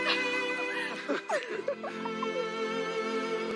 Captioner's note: giggle; laugh